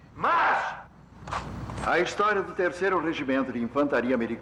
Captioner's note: man On Loudspeaker